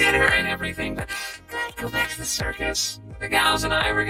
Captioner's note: inhales sharply